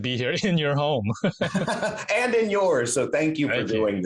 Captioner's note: laughs